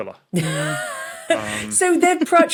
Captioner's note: wheezes